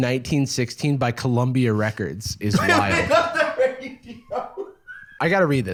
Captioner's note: laughing